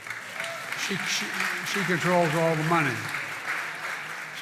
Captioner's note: applause